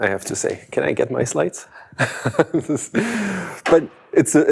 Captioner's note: laughs